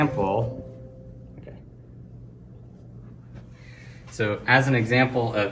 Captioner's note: computer chimes